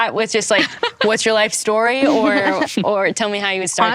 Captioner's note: panel members laugh